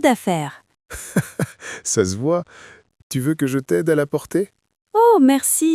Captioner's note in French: rire